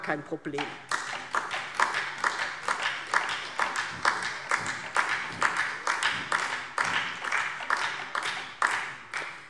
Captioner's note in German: Beifall DIE LINKE und vereinzelt SPD